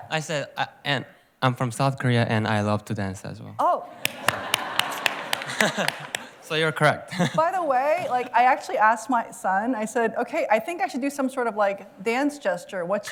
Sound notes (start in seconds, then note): 4.0 claps